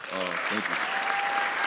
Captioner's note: audience applauds